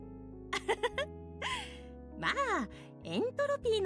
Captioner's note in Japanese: 笑い